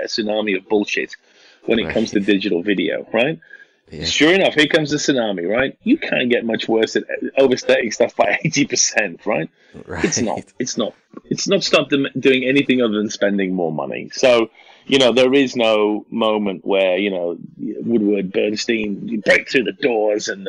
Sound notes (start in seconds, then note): 9.7 laughing